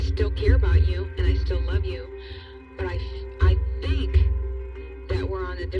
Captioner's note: speing